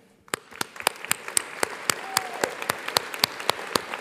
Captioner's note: audience applauds